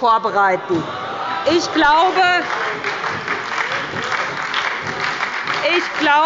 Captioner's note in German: Beifall bei der SPD – Zurufe von der CDU